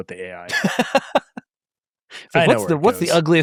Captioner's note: laughing